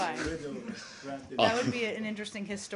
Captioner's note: laughter